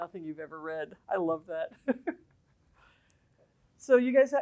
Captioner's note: laughter